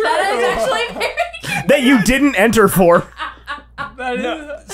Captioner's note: devolved into laughter